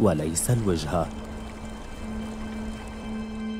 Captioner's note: water rippling